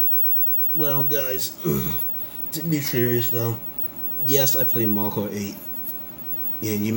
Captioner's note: clears throat